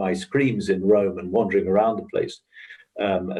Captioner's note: laughs